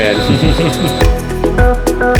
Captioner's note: laughing; electro-pop music